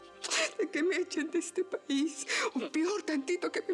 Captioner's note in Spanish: sollozando